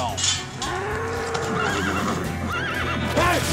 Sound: mooing, horse whinnies

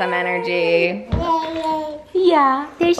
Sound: baby babble

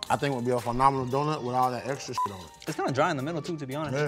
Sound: beep

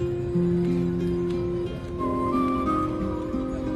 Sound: none

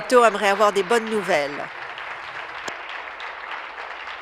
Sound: applause

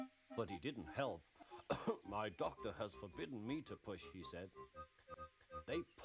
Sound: cough

